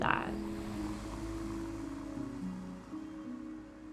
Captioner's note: car whooshing